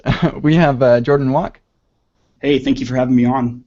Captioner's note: laughs